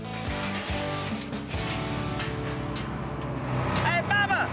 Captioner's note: motor engine approaching